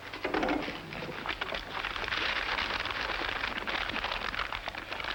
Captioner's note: envelopes crinkling